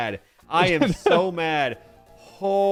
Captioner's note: laughing